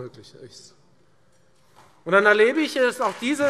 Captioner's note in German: Beifall Freie Demokraten und SPD